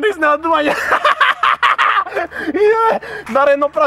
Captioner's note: laughs maniacally